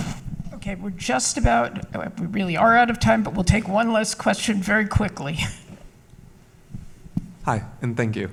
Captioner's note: laughs